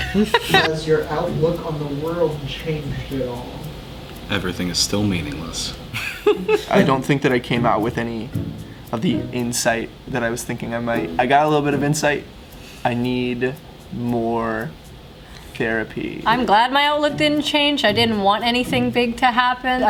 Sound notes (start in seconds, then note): 5.9 laughs